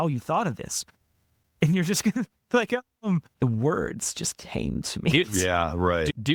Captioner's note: laughing